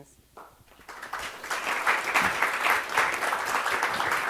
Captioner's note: clapping